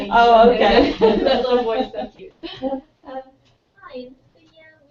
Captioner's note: laugh